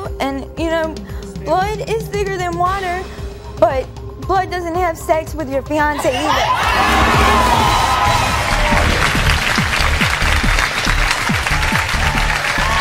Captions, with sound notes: and you know, blood is thicker than water, but blood doesn't have sex with your fiance either. (audience cheering) (audience applauding) (upbeat music)